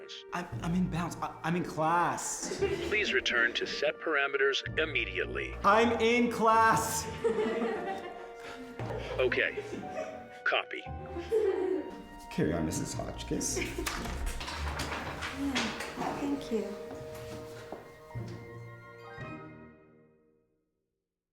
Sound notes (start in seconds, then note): 2.4 students giggle; 7.0 students giggle; 13.5 papers rustling